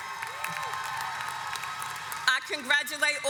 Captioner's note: audience cheers